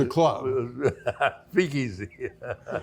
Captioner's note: laughs